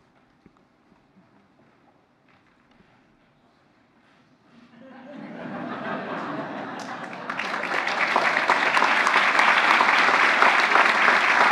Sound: applause

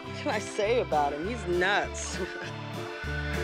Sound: laughs

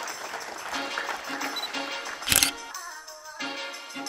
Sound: audience applauds; upbeat soulful music; camera beeps; shutter clicks; upbeat music continues

